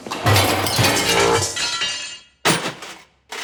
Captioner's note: metal crashing; bucket banging